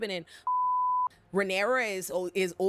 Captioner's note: beep